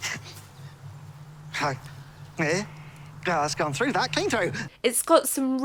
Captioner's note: chokes